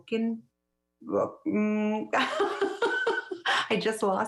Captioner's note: laughs